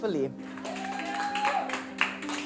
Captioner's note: cheering, applause